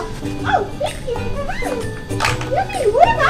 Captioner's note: giggles